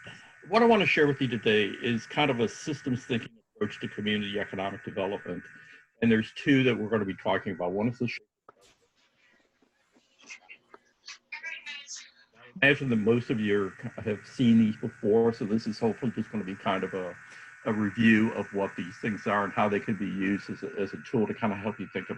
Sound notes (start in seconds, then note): 8.4 microphone cut out